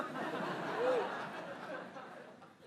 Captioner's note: laughter